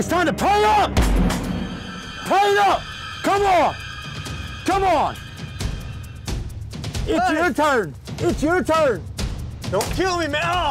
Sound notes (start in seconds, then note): 1.0 gun fire